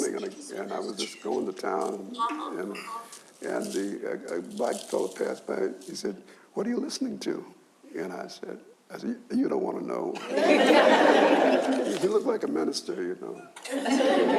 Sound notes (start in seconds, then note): 10.2 audience laughs